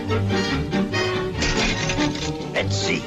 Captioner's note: dishes rattling